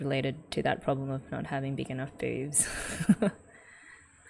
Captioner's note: laughs